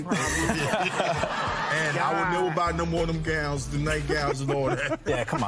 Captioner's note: laughing